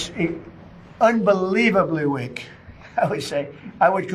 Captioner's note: chuckles